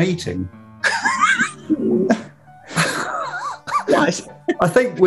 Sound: sniggering

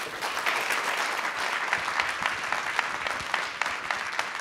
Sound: audience clapping

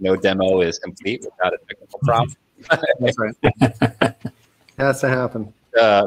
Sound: laughing

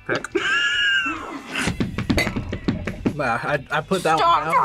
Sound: both laugh

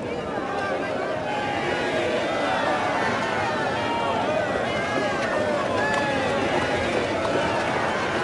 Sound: Crowd cheering the Royal Family

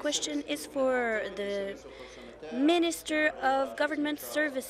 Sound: speaking in French

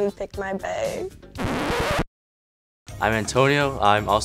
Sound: record scratch

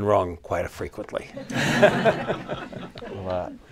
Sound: laughter

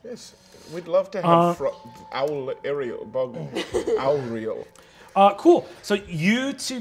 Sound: stuttering

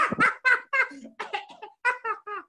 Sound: maniacal laughing; coughing; continues laughing

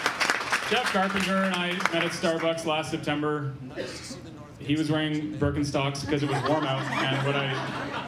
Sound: cheering and Applause

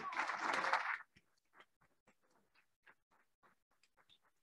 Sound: applauding

